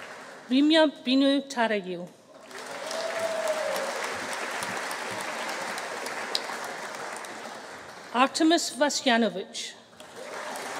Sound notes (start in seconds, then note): 2.4 audience applauding; 2.5 audience cheering; 10.0 audience applauding; 10.5 audience cheering